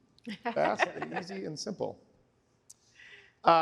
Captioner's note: laughter